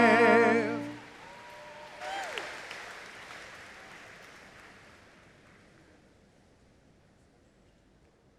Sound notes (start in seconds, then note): 1.7 audience applauding